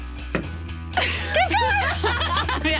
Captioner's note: laughing